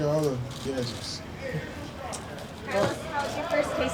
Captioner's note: people chattering in the background